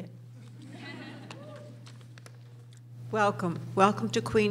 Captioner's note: laughing